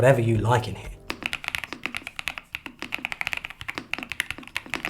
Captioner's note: keyboard clicking